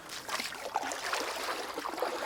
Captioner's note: sounds of water, splashing and motors